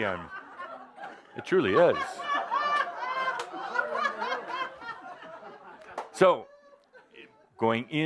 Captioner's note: more laughter